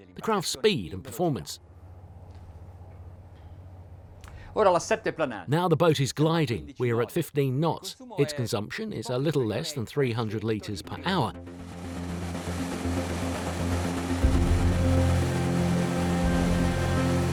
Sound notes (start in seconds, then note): 4.6 speaking in a foreign language; 11.3 ominous music